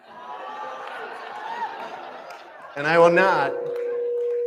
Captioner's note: laughter